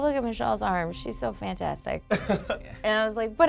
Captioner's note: laughs